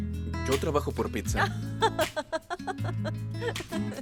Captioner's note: Esperanza ríe